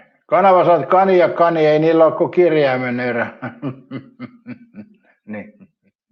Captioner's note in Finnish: naurua